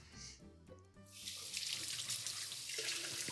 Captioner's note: water running